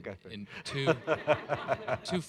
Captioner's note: laughter